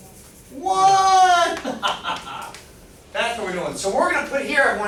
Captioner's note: laughing